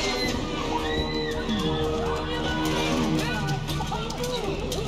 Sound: boonies screaming

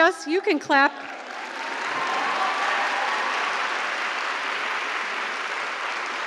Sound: applause

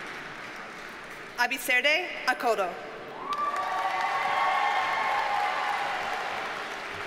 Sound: audience cheers and applauds

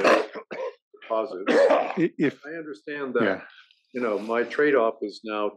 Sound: cough

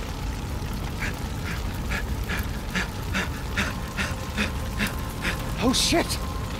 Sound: dramatic music; panting

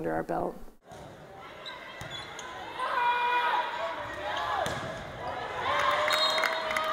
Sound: crowd noise; ref whistle

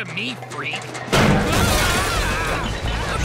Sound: screaming

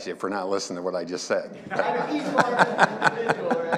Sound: everyone laughing

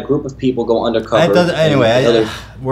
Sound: sigh

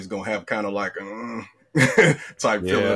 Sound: grunts

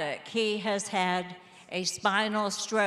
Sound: none

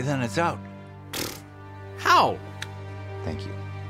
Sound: blows raspberry

